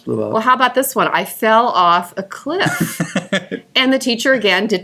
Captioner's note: laughing